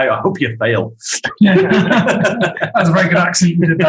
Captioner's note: group laughing